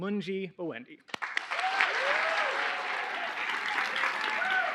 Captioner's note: cheers, applause